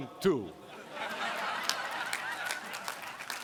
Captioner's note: laughter